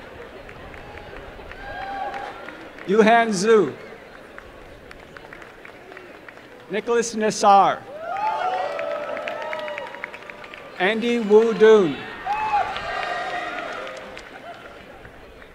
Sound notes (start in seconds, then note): 0.0 applause; 9.2 applause and cheering; 13.9 applause and cheering